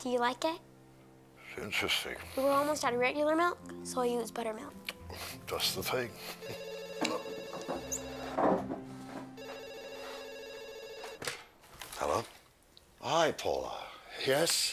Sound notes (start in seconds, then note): 6.2 phone ringing; 7.0 chuckles